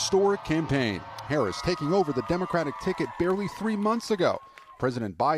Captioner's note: applause